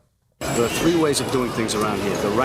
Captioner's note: bell Ringing